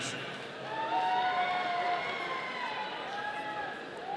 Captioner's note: audience cheering